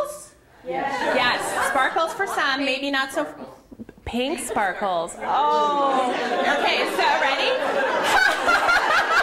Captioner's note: laughter